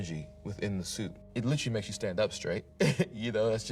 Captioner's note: laughs